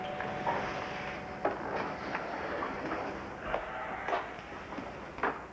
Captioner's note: doorbell rings